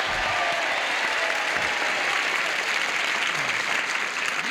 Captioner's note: cheers and applause